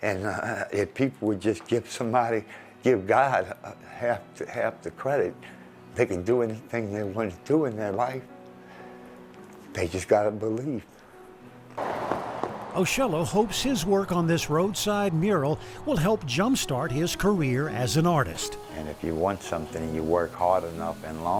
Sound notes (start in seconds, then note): 11.5 engine roaring